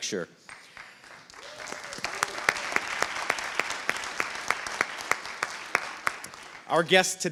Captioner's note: applause